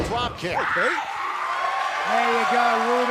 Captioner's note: crowd cheering